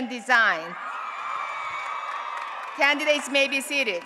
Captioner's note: applause and Cheering